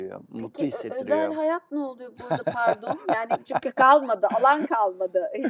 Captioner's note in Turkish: kahkaha